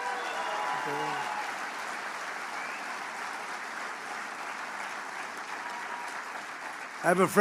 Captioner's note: applause